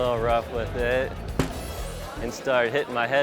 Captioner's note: plexiglass smacking